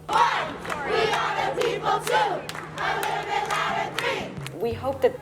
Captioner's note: chanting